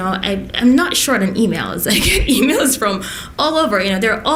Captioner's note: laughs